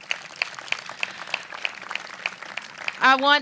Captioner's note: applause